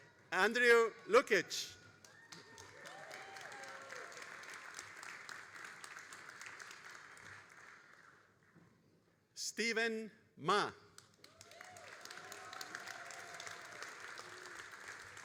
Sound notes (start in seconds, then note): 1.9 all applauding and cheering; 10.9 all applauding